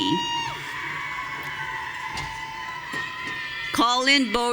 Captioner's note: audience cheering